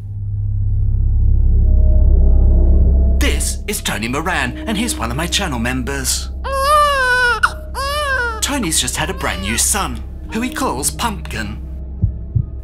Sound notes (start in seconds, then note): 0.2 spooky sound; 6.4 baby crying